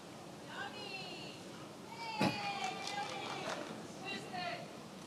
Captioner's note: attendees yelling